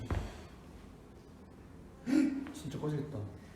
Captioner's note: gasp